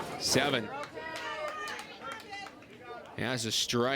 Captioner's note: crowd cheers and applauds